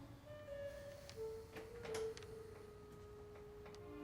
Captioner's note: footsteps